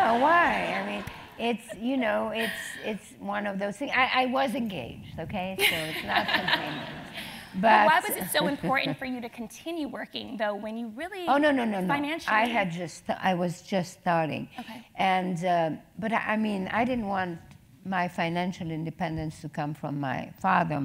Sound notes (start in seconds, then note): 8.2 laugh